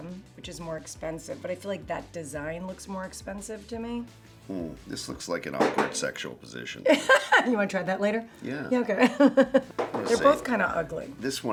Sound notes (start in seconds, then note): 9.0 laughs